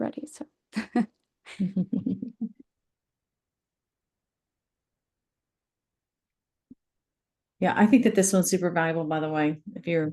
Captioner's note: chuckles; laughs